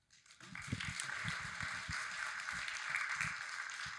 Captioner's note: audience applauding